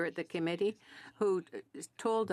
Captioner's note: speaking French